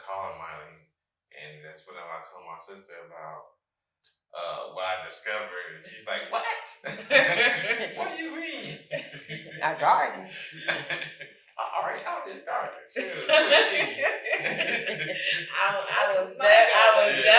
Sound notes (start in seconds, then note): 7.2 all laughing; 10.3 all chuckling; 13.0 all chuckling; 13.0 guffaws